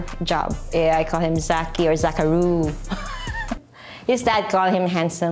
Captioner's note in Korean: 웃음